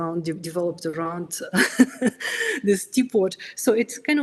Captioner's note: laughs